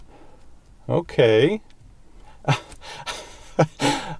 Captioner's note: chuckles